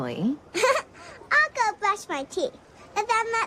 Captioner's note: laughs